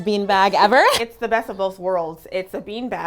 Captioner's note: laughs